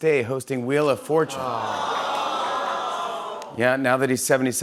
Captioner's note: audience "Awws"